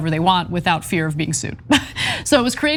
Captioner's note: laugh